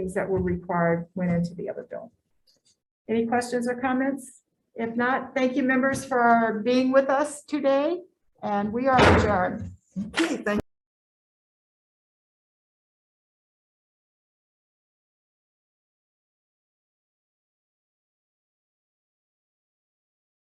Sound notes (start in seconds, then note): 8.6 gavel banging